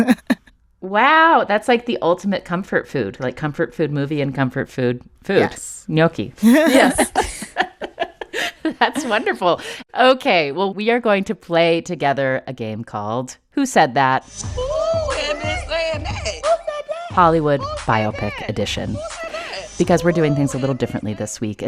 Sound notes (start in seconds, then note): 6.4 laughter; 14.4 soundbite of tv show, "real housewives of atlanta"